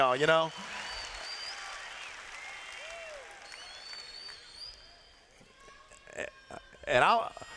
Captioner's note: cheers